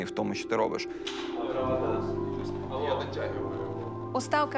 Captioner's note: indistinct chatter